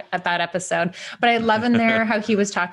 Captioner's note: laughing